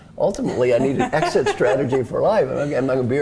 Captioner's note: laugh